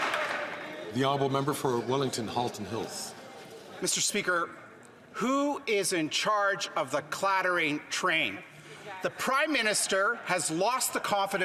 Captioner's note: some Applause